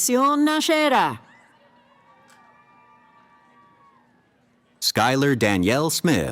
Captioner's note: cheering